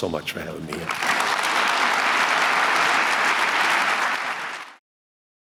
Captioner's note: applause